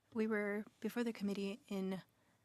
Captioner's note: speaking French